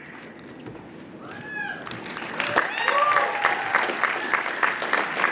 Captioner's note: applause